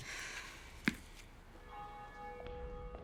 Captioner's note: church bell ringing